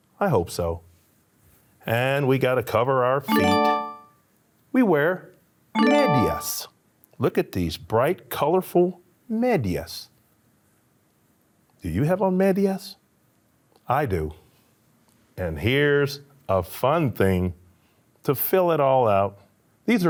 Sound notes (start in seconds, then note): 3.2 upbeat tone chimes